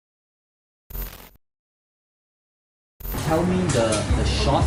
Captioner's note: glitch sound effect